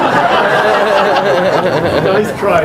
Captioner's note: laughter